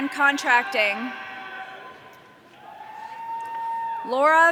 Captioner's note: audience cheering